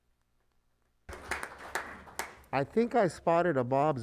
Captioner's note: applauding